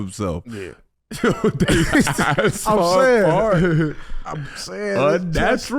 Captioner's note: everyone laughing